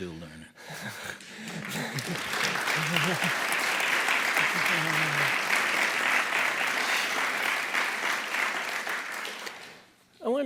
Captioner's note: audience claps